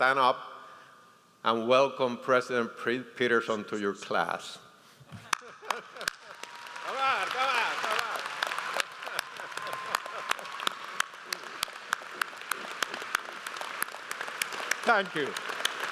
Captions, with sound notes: stand up and welcome President Peterson to your class. (audience applauds) Arise, come on, stand up. (laughs) Thank you.